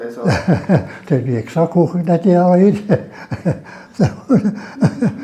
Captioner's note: laughs